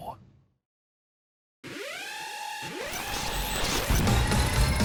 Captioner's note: alarm blares; dramatic music plays